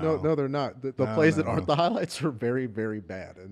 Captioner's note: laughter